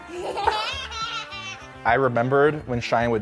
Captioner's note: toddler giggling